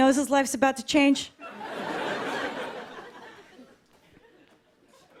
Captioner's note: laughter